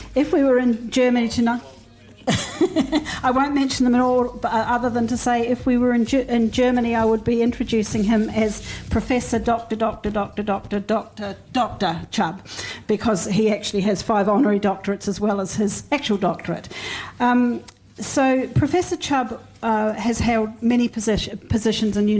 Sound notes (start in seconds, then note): 2.2 laugh